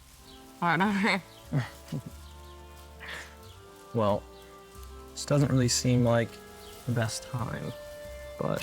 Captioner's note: chuckles